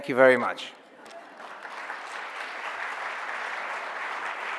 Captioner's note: audience applause